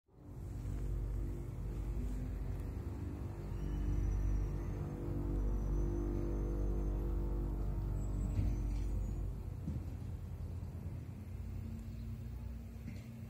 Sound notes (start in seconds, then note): 1.8 ambient outdoor sounds, garbage truck braking and being loaded